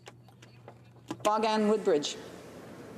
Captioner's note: speaking in French